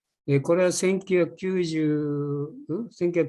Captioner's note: speaking japanese